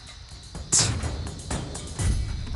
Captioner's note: scoffs